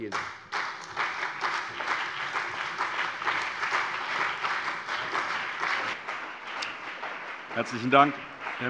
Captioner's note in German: Beifall CDU und BÜNDNIS 90/DIE GRÜNEN